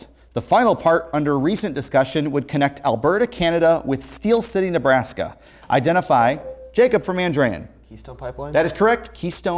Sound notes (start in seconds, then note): 6.2 ringing